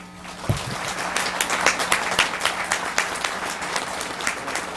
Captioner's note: audience applauds